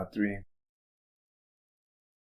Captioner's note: silence